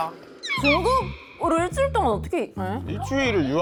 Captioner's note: embarrassed sound effect